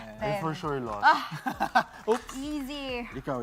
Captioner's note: chuckles